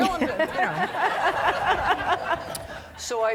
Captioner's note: audience laughing